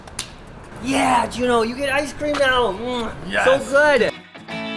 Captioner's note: kissing; slow rock music